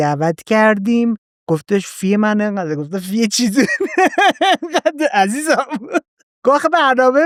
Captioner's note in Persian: خنده